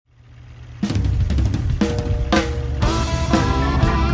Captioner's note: engine running; driving country rock music